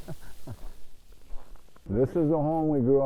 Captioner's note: laughing